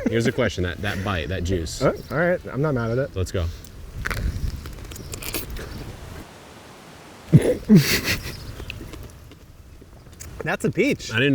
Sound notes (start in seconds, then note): 4.0 biting into peach; 7.3 chuckling